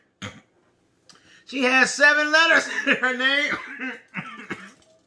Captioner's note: coughing